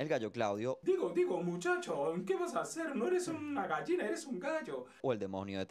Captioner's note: Spanish voice of Foghorn Leghorn